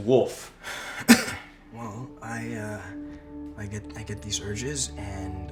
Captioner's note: coughs